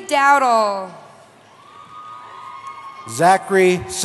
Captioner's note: cheering